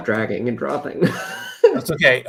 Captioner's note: laughs